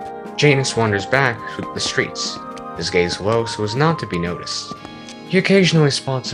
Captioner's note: footsteps